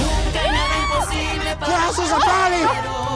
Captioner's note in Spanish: grita